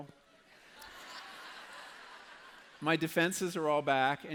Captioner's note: laughter